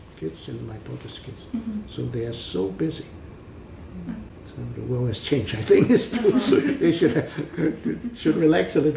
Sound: laughs

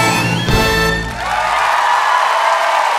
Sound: applause

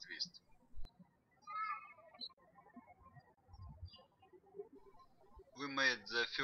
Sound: birds chirping

